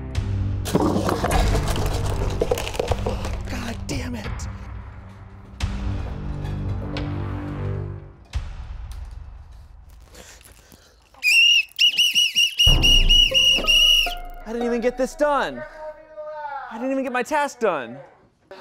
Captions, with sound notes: (pencils crashing) - God dammit. (dramatic music) (whistle blares) - I didn't even get this done! I didn't even get my task done.